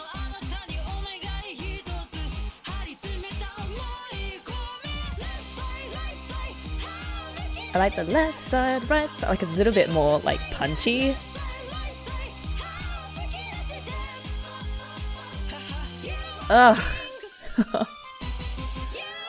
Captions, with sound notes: I like the 'left side, right side' - It's a little bit more punchy. Oh! [laughs]